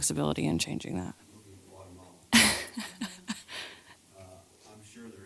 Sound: laugh

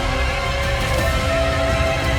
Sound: muffled scream

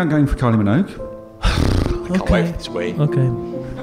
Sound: sighs

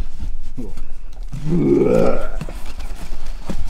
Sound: groaning; box shuffling

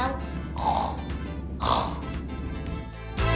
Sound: snoring

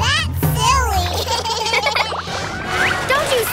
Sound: giggling

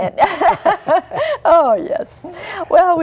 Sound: laughter

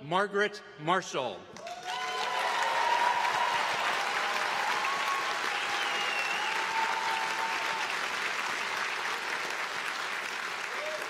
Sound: applause

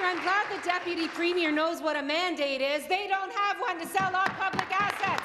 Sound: applause

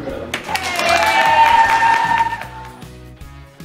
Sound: cheering

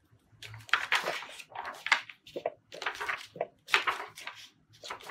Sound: pages flipping

